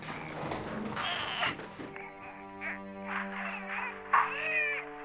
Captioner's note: baby choking